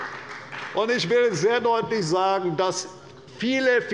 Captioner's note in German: Beifall bei der CDU und bei Abgeordneten der BÜNDNISSES 90/DIE GRÜNEN